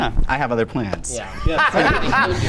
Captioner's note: laughs